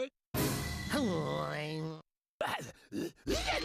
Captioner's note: grumbles; grunting